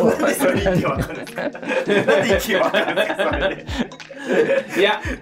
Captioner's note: laughing